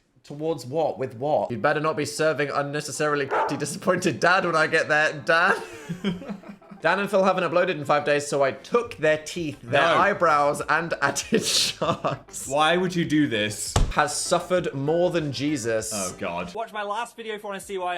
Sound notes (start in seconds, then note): 3.3 dog barks; 5.4 laugh